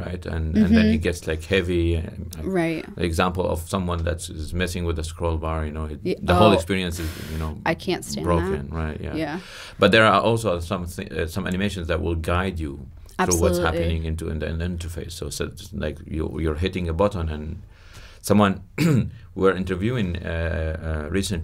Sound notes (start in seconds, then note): 6.3 sighs; 18.8 coughs